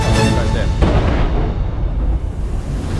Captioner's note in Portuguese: explosão